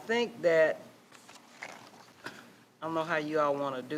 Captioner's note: papers rustling